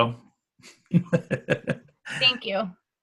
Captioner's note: laughs